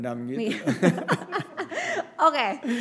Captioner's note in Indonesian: tertawa